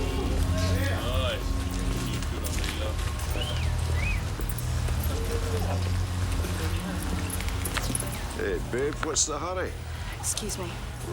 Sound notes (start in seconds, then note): 0.0 men catcalling; 3.3 whistling